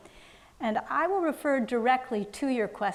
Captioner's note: none